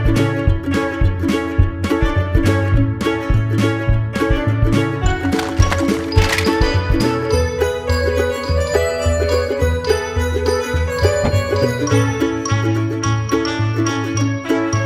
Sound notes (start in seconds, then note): 5.1 plastic clattering; 7.7 whimsical children's music